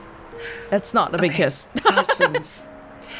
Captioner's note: chuckles